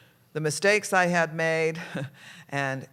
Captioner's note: laughs